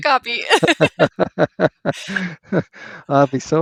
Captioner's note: laughter